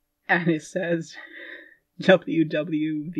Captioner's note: laughing